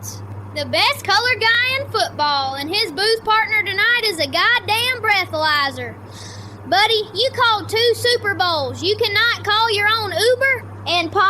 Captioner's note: breath